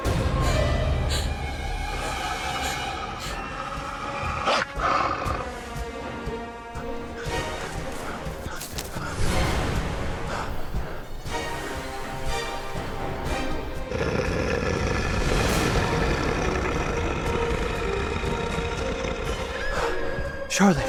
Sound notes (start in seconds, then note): 10.4 dramatic music; 13.9 growling continues; 19.8 Charlotte screaming